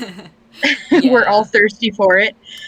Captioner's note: laughs